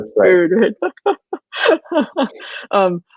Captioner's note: laughing